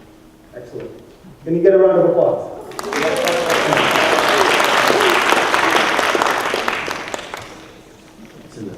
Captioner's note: applause